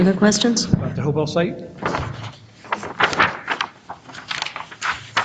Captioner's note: papers shuffle